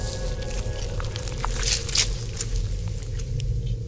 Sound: flesh tears

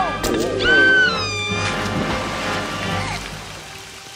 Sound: scream

